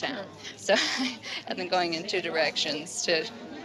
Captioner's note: chuckling